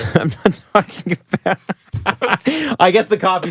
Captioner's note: laughter